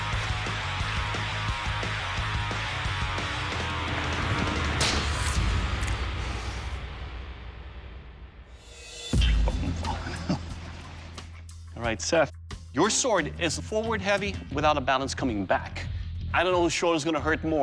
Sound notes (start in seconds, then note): 9.4 chuckles